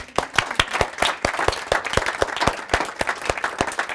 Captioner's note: clapping